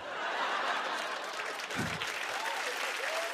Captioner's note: cheers and applause